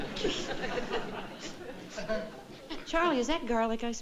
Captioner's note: sniffing